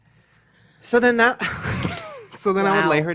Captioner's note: laughs